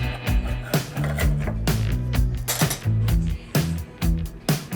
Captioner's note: steak slicing; upbeat instrumental music